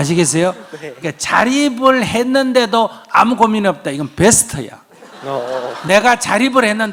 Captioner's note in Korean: 청중 웃음